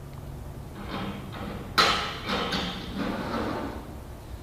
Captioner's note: door opens